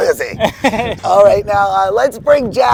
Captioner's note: laughs